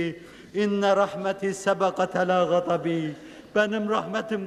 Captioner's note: reciting